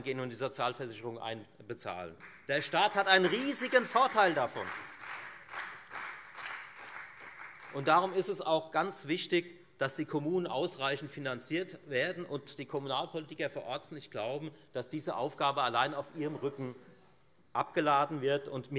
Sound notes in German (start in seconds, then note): 4.3 Beifall